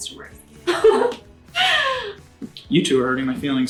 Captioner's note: women laugh